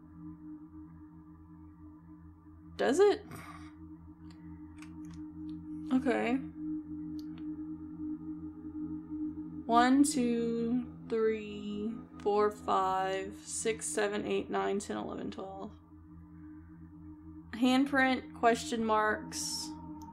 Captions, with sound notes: Does it? [Snorts] Okay. One, two, three... four, five, six, seven, eight, nine, ten, eleven, twelve. Handprint, question marks,